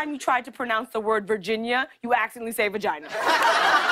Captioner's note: laughter